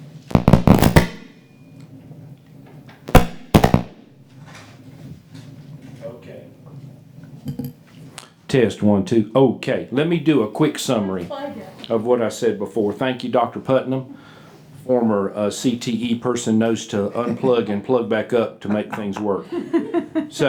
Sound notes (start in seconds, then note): 0.3 microphone pops; 3.1 microphone pops; 19.7 laughing